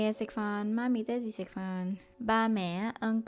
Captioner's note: Cantonese